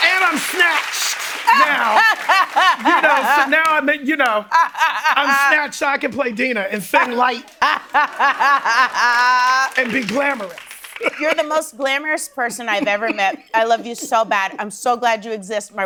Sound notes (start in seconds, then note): 0.0 laughing; 6.8 laughing